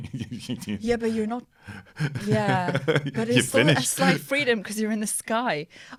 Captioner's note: laughter